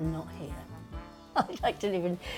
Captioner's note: laughs